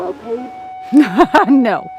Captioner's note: laughs